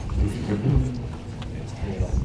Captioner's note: crowd murmurs